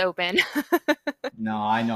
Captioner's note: laughs